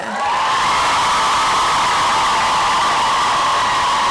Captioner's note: applause and cheering